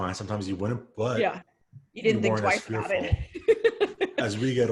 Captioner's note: laughs